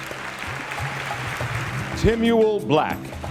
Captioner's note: audience applauding